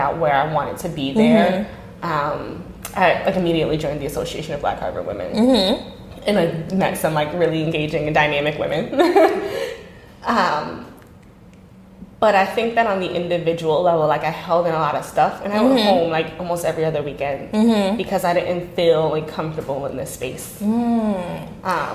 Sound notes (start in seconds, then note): 9.1 laughs